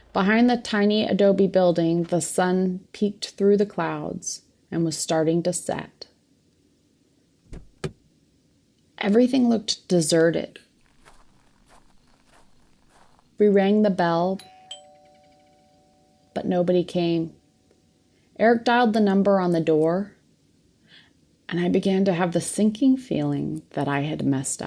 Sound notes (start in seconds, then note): 7.4 car door opens; 14.4 door bell